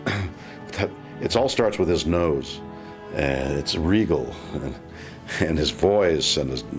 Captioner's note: chuckles